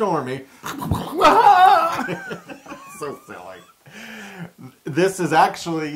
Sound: laugh

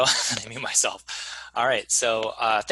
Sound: chuckles

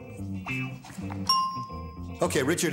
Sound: bell dings

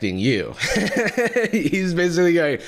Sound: laughs

